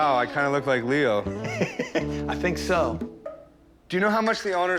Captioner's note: chuckles